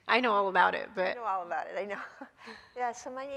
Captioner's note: chuckles